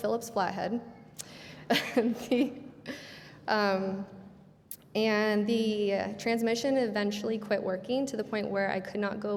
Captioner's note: laughing